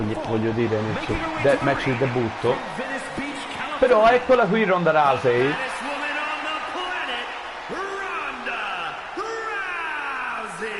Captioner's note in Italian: Applauso